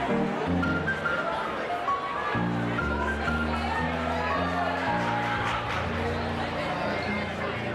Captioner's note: cheers and applause